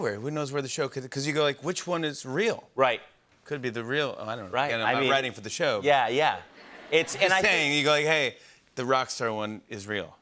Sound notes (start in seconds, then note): 5.4 light laughter